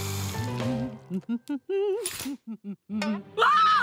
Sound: humming; screaming

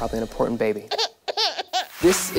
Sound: baby sounds

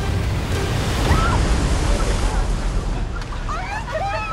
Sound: wave crashing; yelps

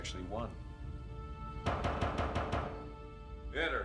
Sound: pounding on door

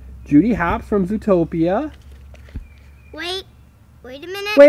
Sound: voiceover

